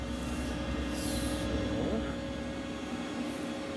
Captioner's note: soft whirring of the machine